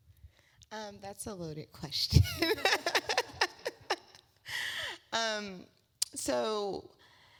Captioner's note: laugh